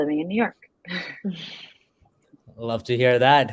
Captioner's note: laughs